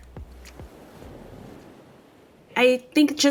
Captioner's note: ocean wave crashes